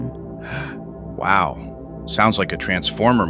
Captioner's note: gasps